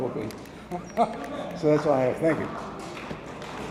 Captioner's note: laughs; attendees applauding